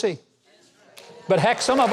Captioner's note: audience claps and cheers